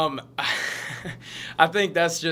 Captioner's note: laughs